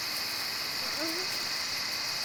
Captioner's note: moaning